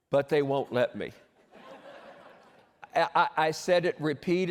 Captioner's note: laughter